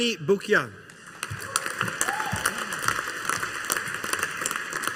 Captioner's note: audience applauding